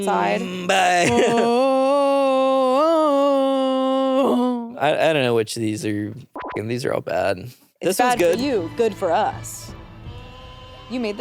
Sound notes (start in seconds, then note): 0.0 vocalizing; 6.3 beep